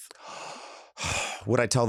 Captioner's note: inhales deeply and sighs